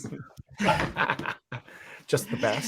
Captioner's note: laughing